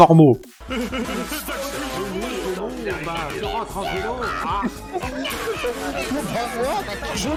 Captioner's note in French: spam de soundboard Discord sur le salon de Denisroro